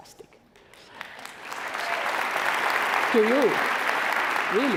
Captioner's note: clapping